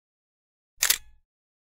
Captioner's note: camera shutter clicks